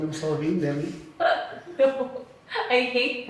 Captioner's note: laugh